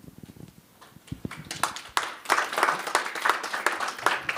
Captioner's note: applause